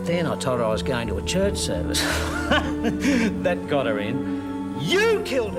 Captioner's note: laughs